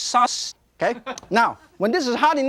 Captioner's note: audience laughing